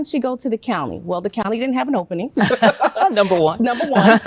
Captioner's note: chuckles